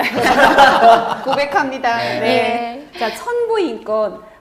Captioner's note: laughing